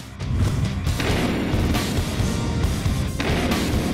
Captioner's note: heavy metal music; gun fire